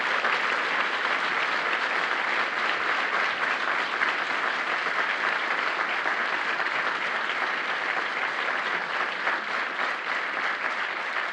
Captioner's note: applause